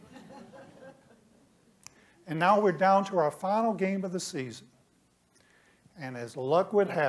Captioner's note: laughter